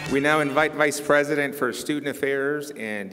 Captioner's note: applause